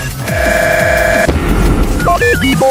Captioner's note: loud Bang